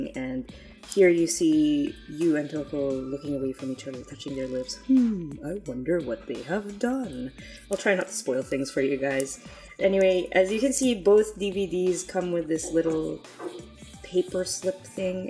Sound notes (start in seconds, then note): 4.8 sarcastically